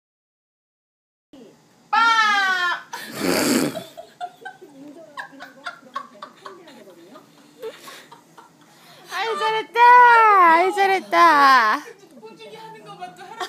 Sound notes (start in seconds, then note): 6.0 엄마 웃음소리ㅋㅋㅋㅋㅋㅋㅋ